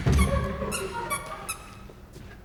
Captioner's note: extremely squeaky shoes; audience laughs softly